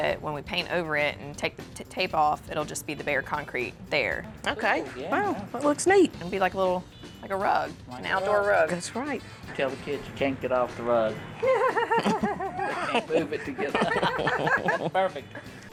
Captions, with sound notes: paint over it and and take the tape off, it'll just be the bare concrete there. Cool. Yeah. Wow. That looks neat. It'll be like a little - like a rug, an outdoor rug. That's right. [ Laughs ] They can't move it to get - [ Laughter ] Perfect.